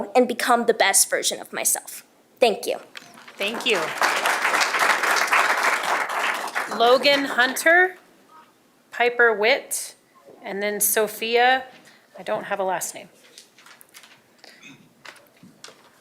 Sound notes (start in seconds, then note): 7.2 applause